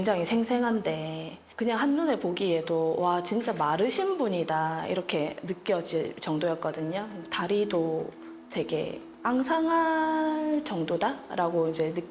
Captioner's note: voiceover